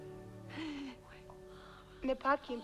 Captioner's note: Hundra whispering